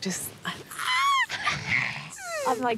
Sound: squeals

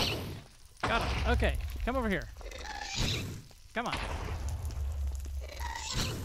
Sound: shrieking continues

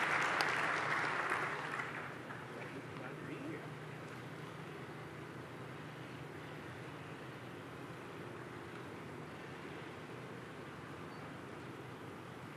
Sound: applause

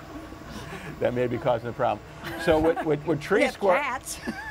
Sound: laughter

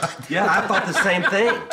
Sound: laughs

